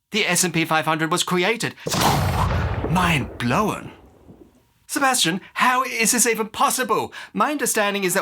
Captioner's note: thud